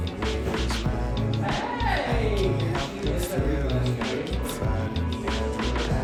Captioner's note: haha